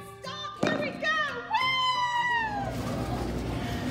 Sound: cheers

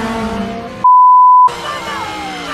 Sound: swearing; all screaming

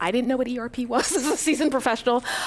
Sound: laughing

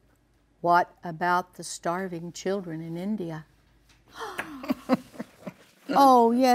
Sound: laughs

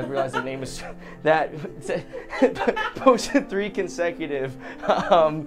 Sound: laughing

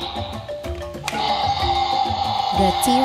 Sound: T-Rex Roars!

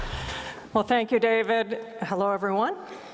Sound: applause

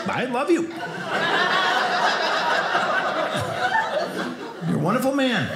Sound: audience laughing

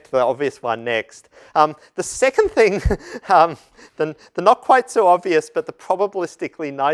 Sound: laugh

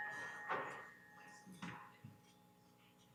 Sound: bell rings

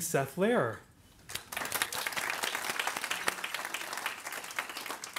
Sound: audience applauds

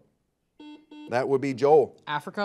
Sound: buzzer buzzes

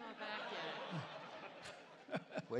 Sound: laughter

